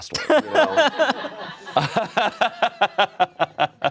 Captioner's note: all laugh